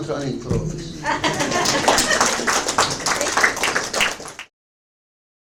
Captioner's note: audience laughs and applauds